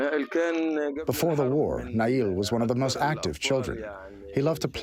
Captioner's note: through translator